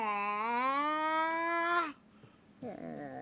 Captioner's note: squawking